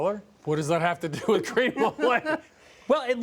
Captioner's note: laughing